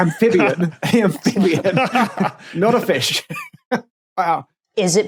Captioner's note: both laughing